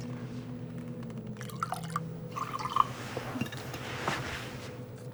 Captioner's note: liquid splashing